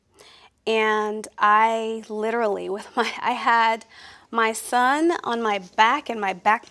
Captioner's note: laughs